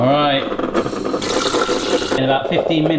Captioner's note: liquid pouring